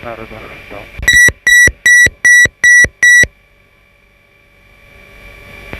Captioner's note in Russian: сигнал отключения автопилота